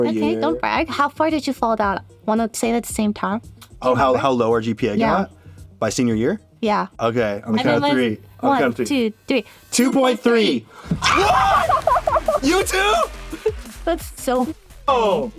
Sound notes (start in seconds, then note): 10.8 both freaking out